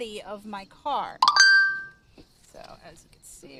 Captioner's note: phone chimes